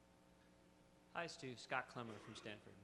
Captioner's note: voiceover